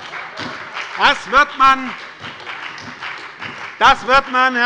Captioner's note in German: Heiterkeit und Beifall bei der SPD, der LINKEN und der FDP